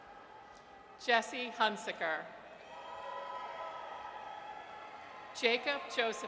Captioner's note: audience cheers; audience cheers